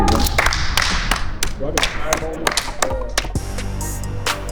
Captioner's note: elevator applauding; upbeat music